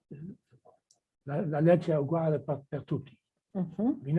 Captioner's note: speaking italian